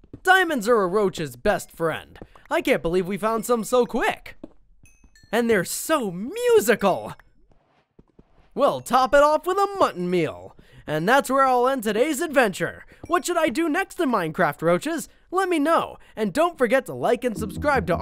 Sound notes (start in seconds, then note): 4.8 light ringing